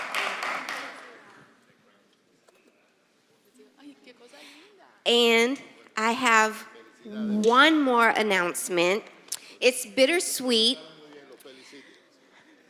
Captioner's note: applause